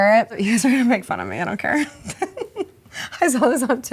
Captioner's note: laughs